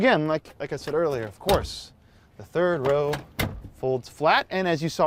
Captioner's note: seat thudding